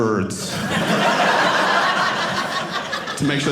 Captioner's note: audience laughing